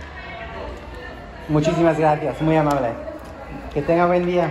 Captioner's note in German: auf Spanisch